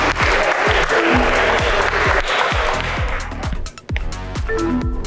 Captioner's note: group still applauding; electronics beep; upbeat music